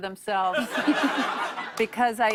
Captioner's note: laughter